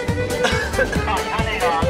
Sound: coughing

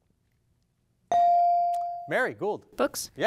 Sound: device dings

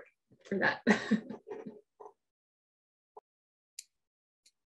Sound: chuckles

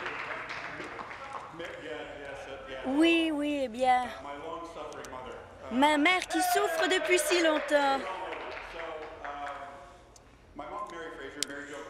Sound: applause

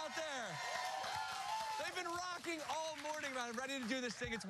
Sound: cheers and applause

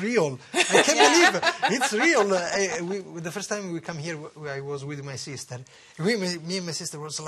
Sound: laughter

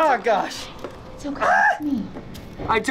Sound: shrieks

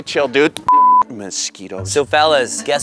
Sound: beep

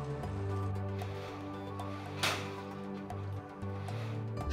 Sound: metal sliding and bumping

